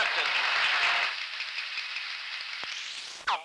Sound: applause

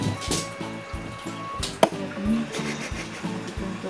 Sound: cat nails scratching on floor

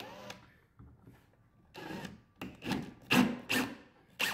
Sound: drill whirring

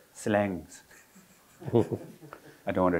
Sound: all laughing

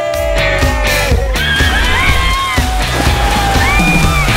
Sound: excited screaming

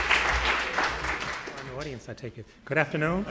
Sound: applause

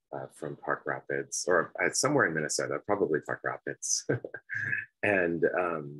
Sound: laughs

